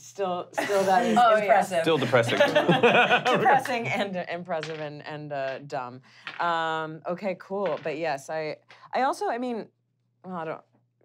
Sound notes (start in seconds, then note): 2.4 laughing; 7.6 rolling dice